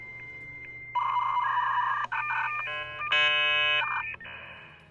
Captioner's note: beeping